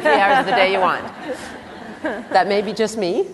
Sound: laughter

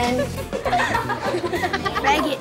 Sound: laughing

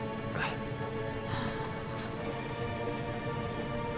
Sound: gasp!

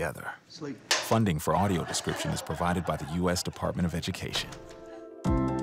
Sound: clank; laughter

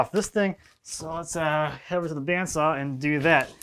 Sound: none

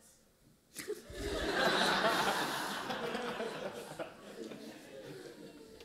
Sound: laughter

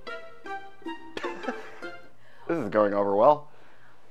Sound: laughs

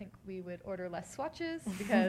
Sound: laughter

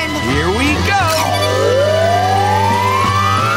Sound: powering up

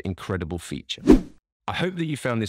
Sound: lines whooshing

